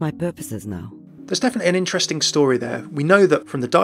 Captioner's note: voiceover